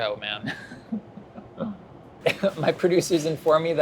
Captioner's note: laughing